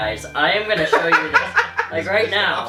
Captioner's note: laughs